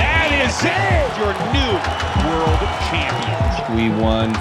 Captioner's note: crowd cheering, applauding; dynamic music playing